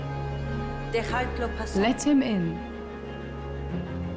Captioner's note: speaking Spanish